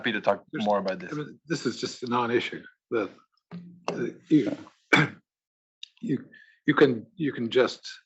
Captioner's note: laugh; cough